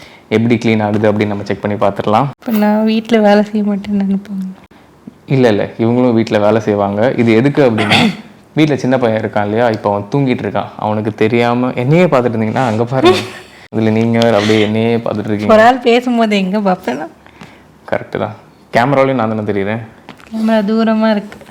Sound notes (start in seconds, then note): 13.0 chuckles